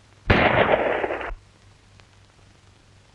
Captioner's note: gun shot